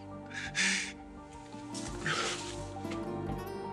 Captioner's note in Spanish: Solloza